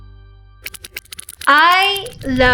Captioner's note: upbeat music; whirring